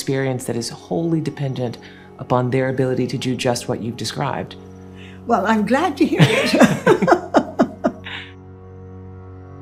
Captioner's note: laughing